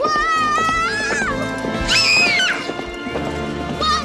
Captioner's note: screams